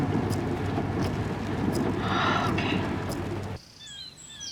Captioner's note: sighs